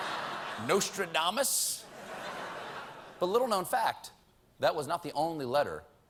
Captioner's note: laughter